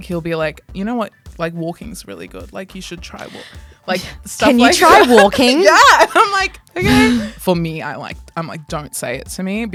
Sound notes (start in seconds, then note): 3.2 gasps